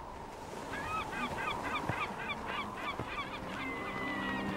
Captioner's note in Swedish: måsarna ringer